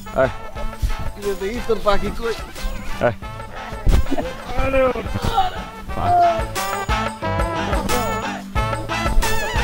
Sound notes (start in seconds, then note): 5.1 groans in pain